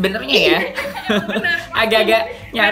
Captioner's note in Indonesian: Laugh